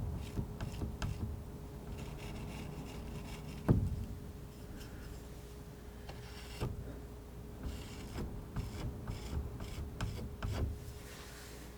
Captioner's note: scratching